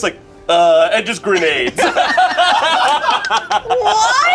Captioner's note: group laughs